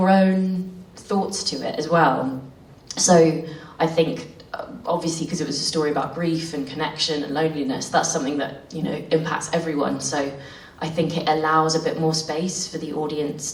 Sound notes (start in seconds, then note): none